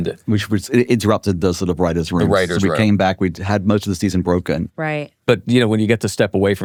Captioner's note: none